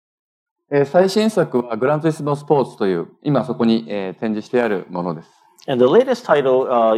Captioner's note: speaking japanese